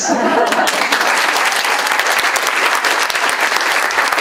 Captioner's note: audience applauding